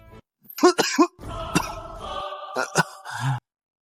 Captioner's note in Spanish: Cof, cof; cof